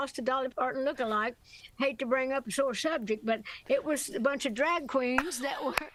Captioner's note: laughter